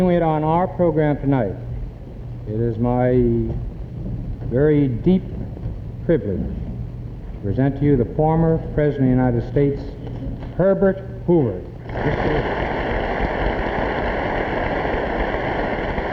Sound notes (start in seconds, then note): 11.8 audience applauding